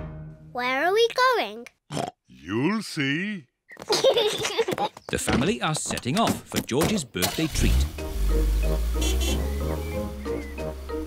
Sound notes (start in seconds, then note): 1.9 oinks; 3.7 kids giggle; 8.0 horn honks